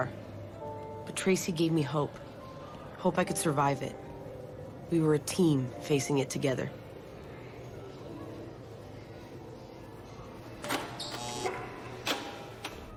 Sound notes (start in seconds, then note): 10.7 door opening & buzzer